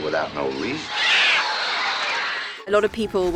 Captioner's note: birds chirping